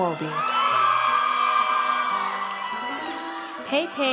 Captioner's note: audience cheers